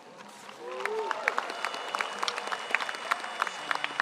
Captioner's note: audience applauds